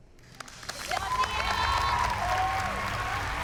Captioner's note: cheering